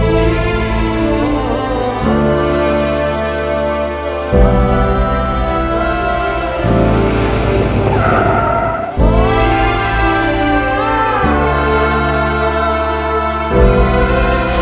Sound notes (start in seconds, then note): 0.1 Song playing over radio; 7.8 Car halting; 11.3 Song playing over radio